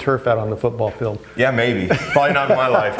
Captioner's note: laughs